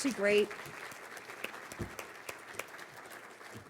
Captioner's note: applause